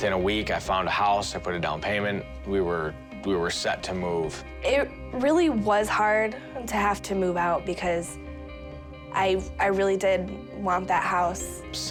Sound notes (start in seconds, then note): none